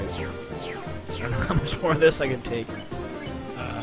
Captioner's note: laughing nervously